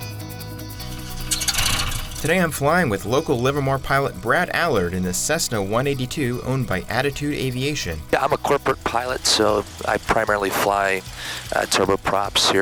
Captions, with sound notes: (plane engine starting) Today I'm flying with local Livermore pilot, Brad Allard in his Cessna 182, owned by Attitude Aviation. Yeah, I'm a corporate pilot, so I primarily fly turboprops